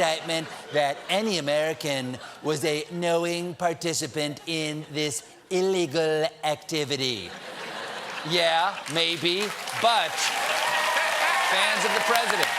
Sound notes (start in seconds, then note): 8.7 cheers and applause